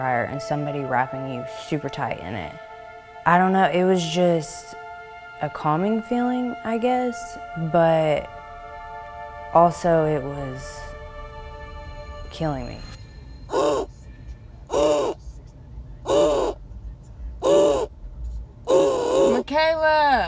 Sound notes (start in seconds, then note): 13.6 difficulty breathing sound